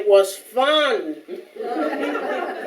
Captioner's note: audience Laughing